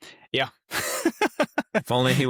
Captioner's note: both laughing